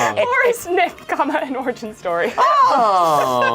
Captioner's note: laughs